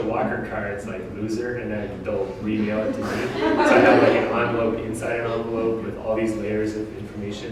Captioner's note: audience: Laughter